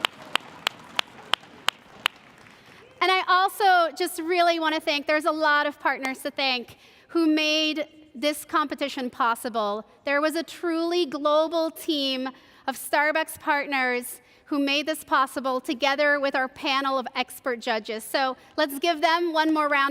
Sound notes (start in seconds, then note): 0.0 cheers and applause